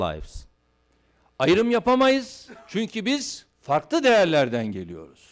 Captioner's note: non-english speech